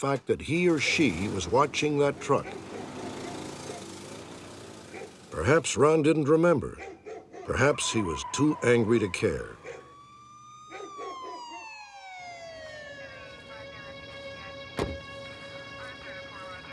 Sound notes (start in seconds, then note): 3.0 dog barking; 10.1 siren; 13.5 police radio